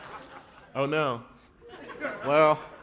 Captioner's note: laughter